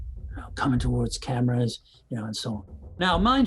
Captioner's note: whispering